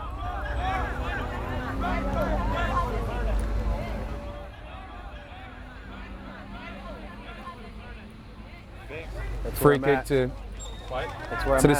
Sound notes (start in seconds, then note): 0.8 players shouting